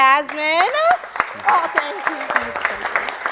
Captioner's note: audience claps and cheers